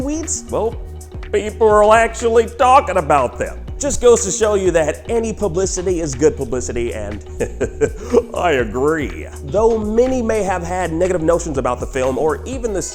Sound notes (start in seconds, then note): 7.2 heh heh heh